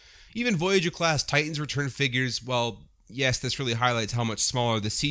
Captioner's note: none